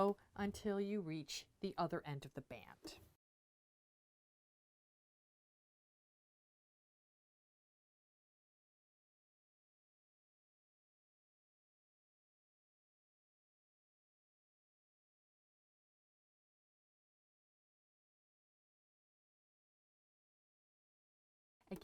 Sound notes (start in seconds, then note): 3.1 no Sound Present